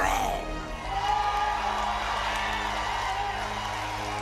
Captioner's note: crowd cheering